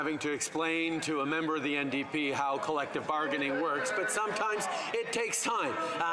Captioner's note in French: voix de l'interprète